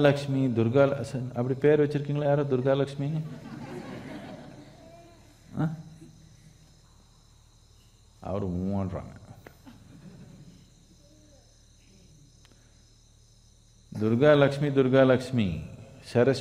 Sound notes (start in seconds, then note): 0.9 speaks in Tamil